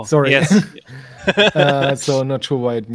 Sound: laughing

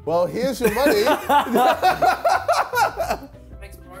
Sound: laughing

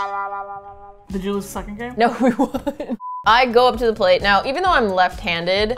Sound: laughing

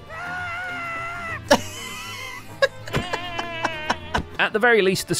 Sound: goat screams; chuckles; goat death noises

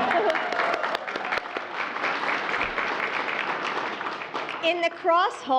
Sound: applause

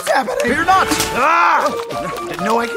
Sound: splash; snap; splash

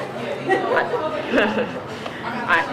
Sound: chuckles

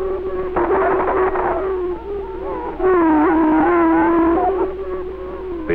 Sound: prairie chicken calling & booming

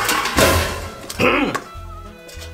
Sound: grunts

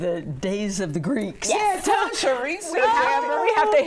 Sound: group chattering

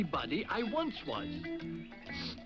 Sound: sniffles

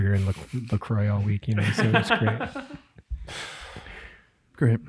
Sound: laughs

